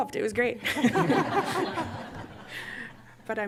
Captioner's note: laughter